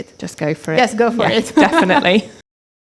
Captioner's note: laughs